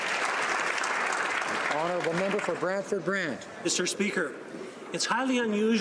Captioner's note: applause